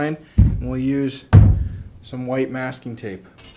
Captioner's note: thudding